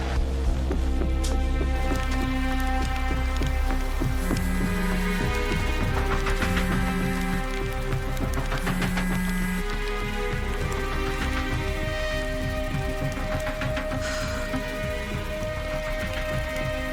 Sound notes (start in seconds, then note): 3.5 phone vibrating; 13.5 sighs